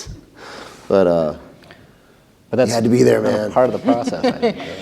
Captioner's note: laughs; laughter